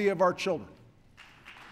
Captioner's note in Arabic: تصفيق